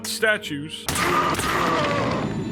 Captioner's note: gun firing